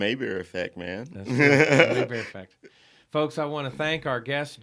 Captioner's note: laughing